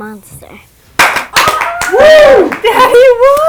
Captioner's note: applauding